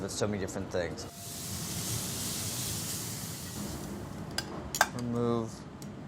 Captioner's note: steak sizzling in pan